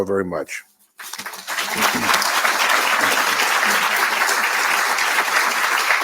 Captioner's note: audience applauding